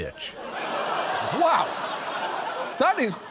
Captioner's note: audience laughs